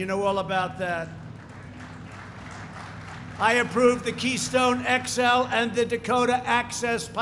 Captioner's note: applause